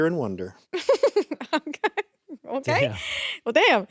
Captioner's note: laughs